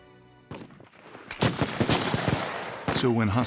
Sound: gunshots

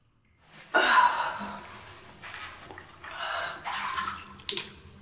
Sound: exhales sharply; water dripping

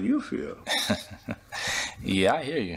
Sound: Bryan chuckles

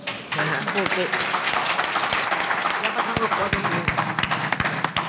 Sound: audience applauding

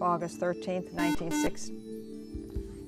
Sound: buzzer

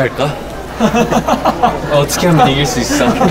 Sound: laughing

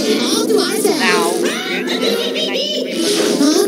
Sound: shadow cackles

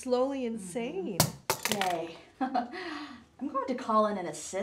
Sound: speculum hits floor

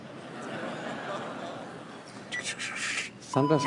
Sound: audience laughs

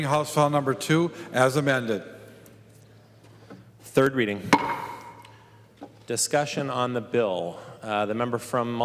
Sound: gavel

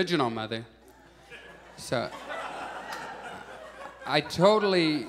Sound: audience laughs

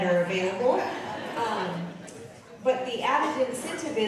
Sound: audience laughing

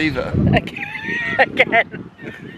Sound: laughing

